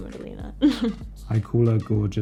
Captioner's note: laughs